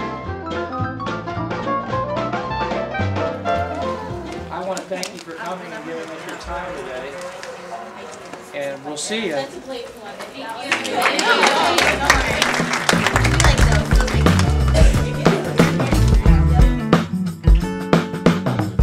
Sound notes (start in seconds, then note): 6.9 audience applause; 10.8 music playing-- no dialogue